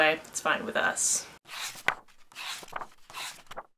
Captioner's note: pages turning